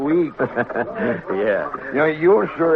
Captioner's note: laughter